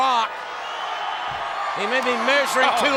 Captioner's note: crowd cheering